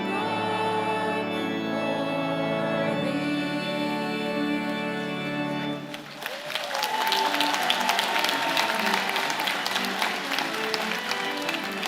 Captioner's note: applause